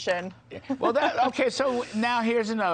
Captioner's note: laughter